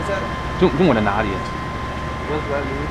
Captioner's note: mandarin